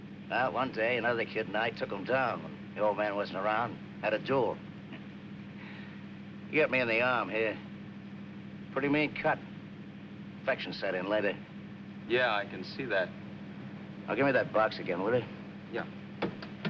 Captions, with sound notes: One day, another kid and I took 'em down when the old man wasn't around. Had a duel. [chuckles] He hit me in the arm, here. Pretty mean cut. Infection set in later. Yeah, I can see that. - Oh, gimme that box again, will ya? - Yeah.